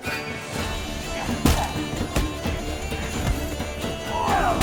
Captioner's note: punches land